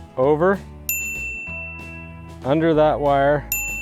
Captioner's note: bell rings; bell rings